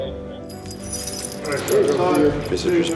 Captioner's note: ringing